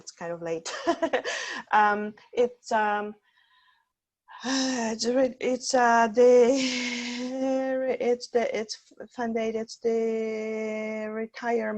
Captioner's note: laughter